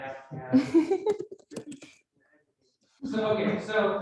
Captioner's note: host giggling